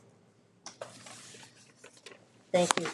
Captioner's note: papers rustling